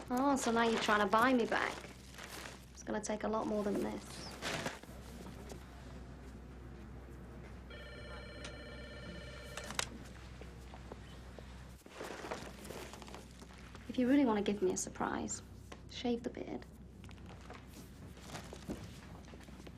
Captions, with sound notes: - Oh, so now you're trying to buy me back. It's gonna take a lot more than this. (phone ringing) If you really wanna give me a surprise, shave the beard.